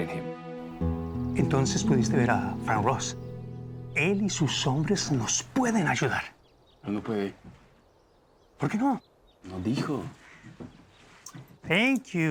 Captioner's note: speaking spanish